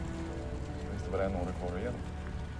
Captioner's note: speaking Swedish